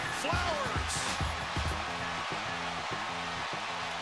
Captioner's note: cheering